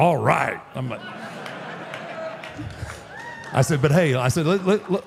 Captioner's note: audience applauding